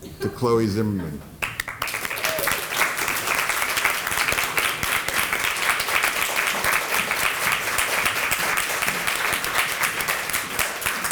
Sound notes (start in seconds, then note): 1.4 applause